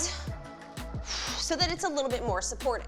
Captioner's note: exhales harshly